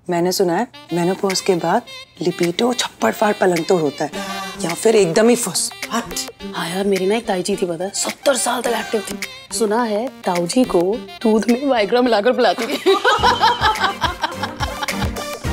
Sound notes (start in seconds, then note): 12.6 all laughs